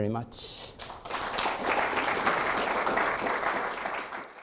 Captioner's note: audience applauding